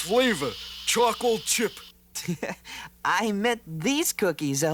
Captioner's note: laughs